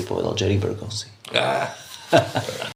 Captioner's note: laughs